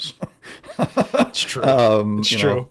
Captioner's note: laughs